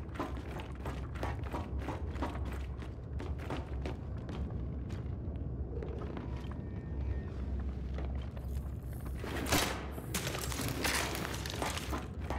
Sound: footsteps

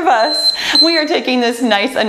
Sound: laughs joyfully; timer beeping

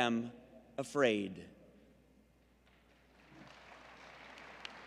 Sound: applause

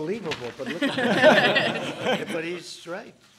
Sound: laughter

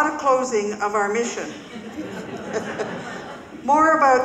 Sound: audience laughing

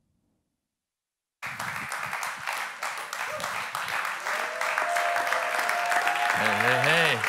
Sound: congregation cheering; clapping

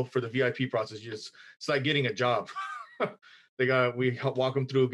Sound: laughs

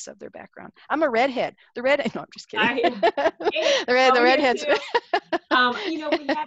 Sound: laughing

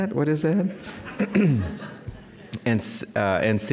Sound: audience laughing

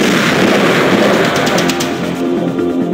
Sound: gunshots

